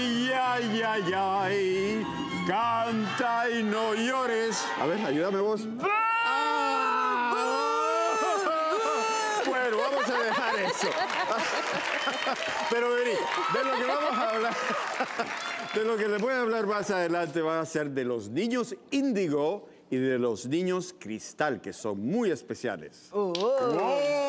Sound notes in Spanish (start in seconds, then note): 12.9 Aplausos; 15.9 Risas